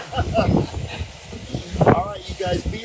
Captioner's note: chuckling